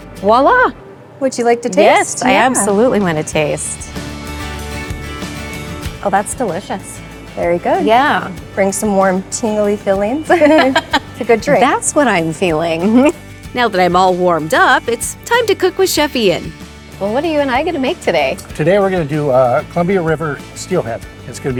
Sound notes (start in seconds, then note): 3.9 bright music; 10.2 laughing